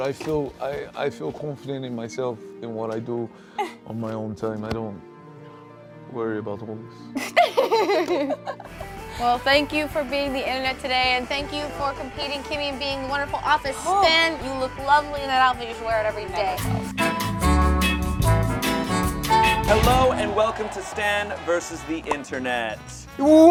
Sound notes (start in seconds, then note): 7.2 laughs; 16.4 slow bossa nova music